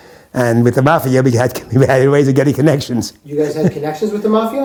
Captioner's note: laughs